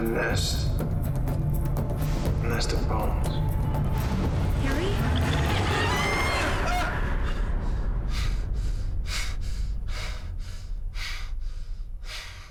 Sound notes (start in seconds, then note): 5.2 screaming; 9.9 panting